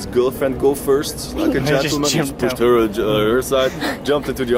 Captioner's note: laughing